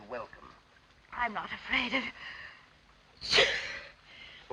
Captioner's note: sneezes